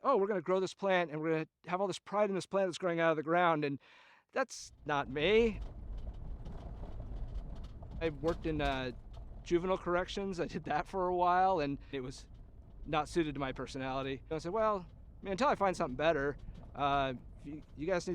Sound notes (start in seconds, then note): 6.4 tires crunch over gravel road